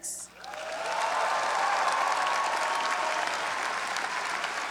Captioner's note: graduates applaud and cheer